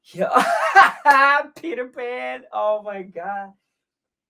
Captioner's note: laughs